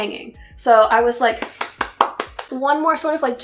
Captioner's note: applause